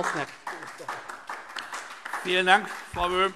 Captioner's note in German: Beifall DIE LINKE